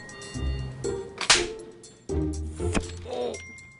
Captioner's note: phone ringing; whimsical string music; latex smacking; groans